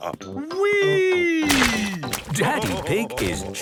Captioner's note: splashes